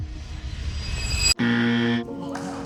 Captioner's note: buzzer